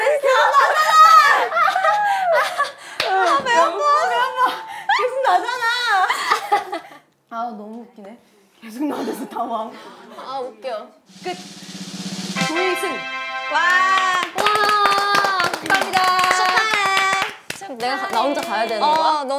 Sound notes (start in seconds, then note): 13.9 clapping